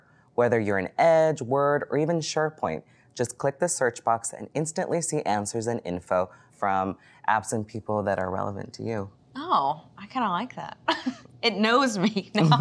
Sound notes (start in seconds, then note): 10.9 laughs; 12.4 both laughing